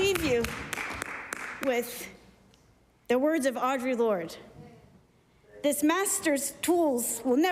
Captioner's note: applause